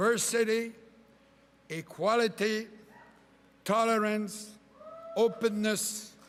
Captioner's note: cheering and applause